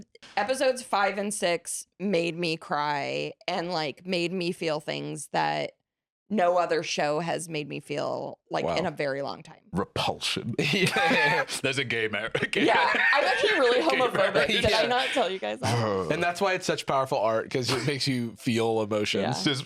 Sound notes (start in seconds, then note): 10.3 laughs